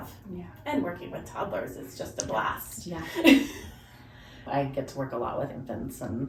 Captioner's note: laughs